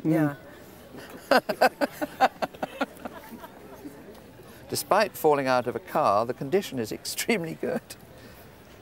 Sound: laughing

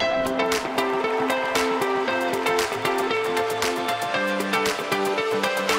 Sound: audience cheers and applauds

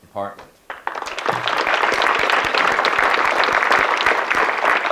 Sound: audience clapping

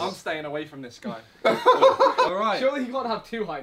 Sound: KSI laughing

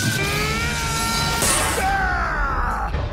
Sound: klaaang

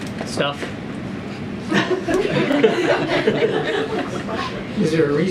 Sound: laughter

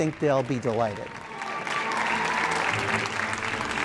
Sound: audience applause; operatic music

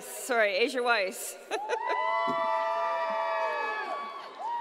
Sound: laughs

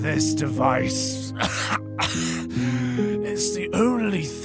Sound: raspy cough cough

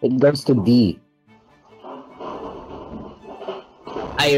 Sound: crashing in Background

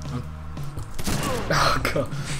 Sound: bullet striking through flesh

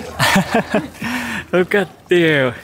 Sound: laughs

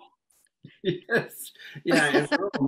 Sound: laughs

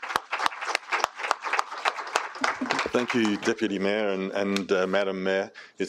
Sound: applause

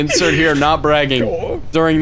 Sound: blarg noise

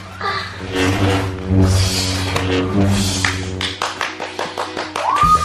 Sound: lightsaber whirring; applauding

